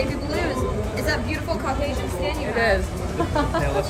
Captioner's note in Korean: ㅋㅋ